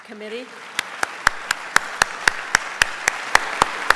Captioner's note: applause